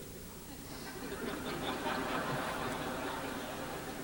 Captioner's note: laughter